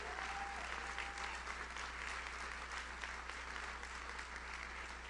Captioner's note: audience cheers; audience applauds